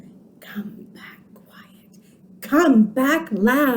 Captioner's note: whispers and puts finger behind back; whispers and brings finger back to front